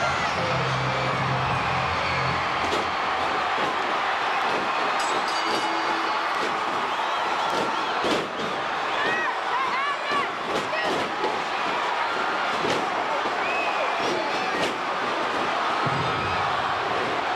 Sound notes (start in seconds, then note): 3.2 crowd chattering; 3.2 stage clattering; 4.8 bell ringing; 7.0 crowd chattering; 7.0 stage clattering